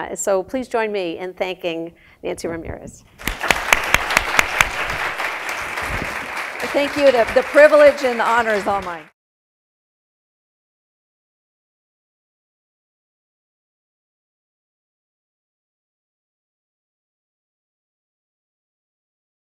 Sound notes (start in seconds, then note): 3.2 applause